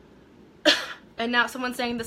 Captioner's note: coughing